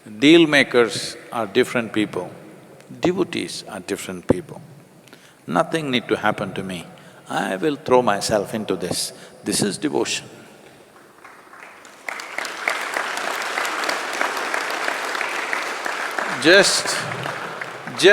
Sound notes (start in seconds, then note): 14.2 applause